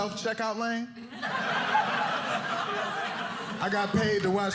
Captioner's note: audience laughing